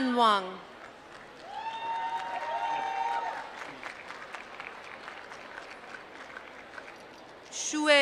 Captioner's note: applause